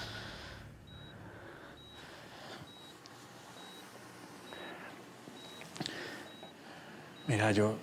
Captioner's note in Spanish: sonido del monitor